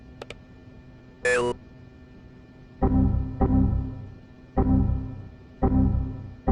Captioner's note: mouse clicking